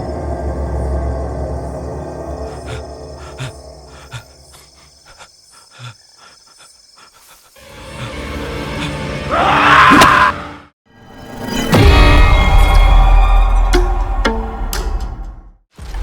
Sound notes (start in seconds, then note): 7.2 suspenseful music; 9.2 screaming